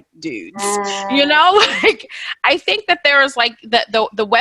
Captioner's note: laughs